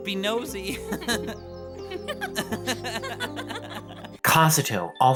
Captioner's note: both chuckling